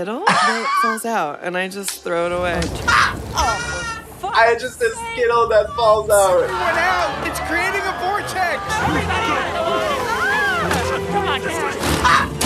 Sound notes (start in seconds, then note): 2.7 Trixie laughs